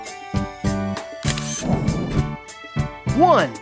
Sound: SFX: Camera Shutter

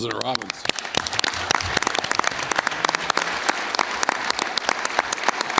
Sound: applause

